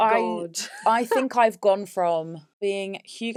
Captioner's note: laughs